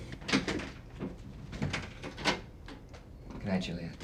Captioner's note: door knob rattles